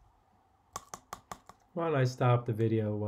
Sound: spoon taps

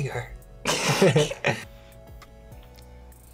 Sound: both laugh

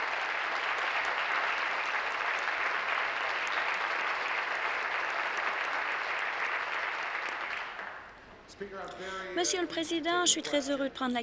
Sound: applause

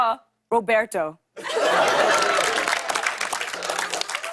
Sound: laughter and applause

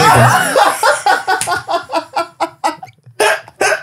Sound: laughing

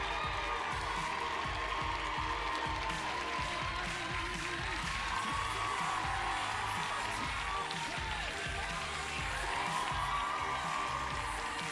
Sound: cheers and applause

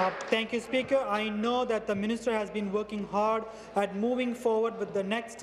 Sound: applause

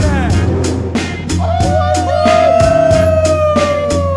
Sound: crowd cheers

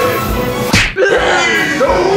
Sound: stomps

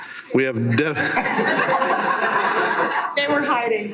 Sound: everyone laughs

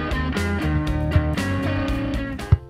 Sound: ball kicking sound and slower background music

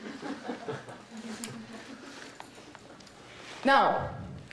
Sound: audience laughing

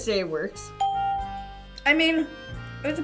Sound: bell rings

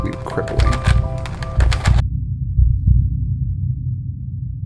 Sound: louder heartbeats

